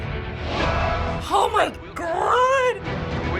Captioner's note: excitedly